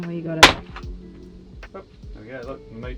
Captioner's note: knife cracks shell